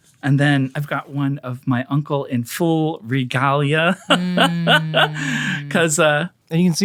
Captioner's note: laughs